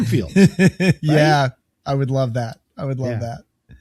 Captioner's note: laughs